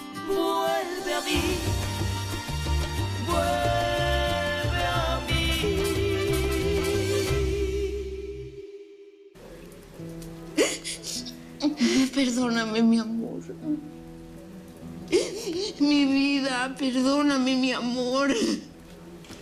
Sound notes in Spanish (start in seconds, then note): 11.4 Sollozos